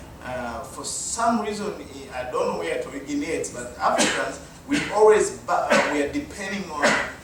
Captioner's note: audience member coughs